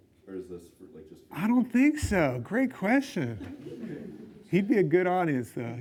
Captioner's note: laughs; laughs